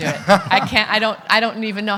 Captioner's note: everyone laughing